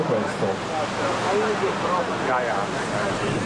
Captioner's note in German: Lautes Rauschen